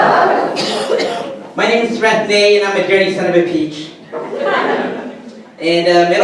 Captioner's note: audience laughter; audience laughter